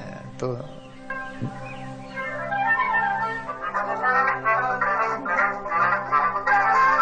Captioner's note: phone rings